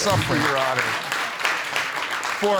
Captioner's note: applause